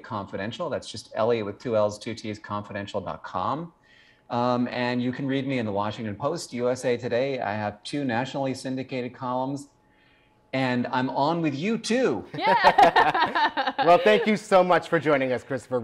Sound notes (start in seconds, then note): 12.3 man and woman laughing